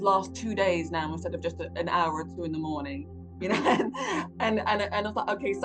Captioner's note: chuckles